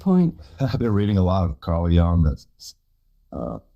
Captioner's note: chuckles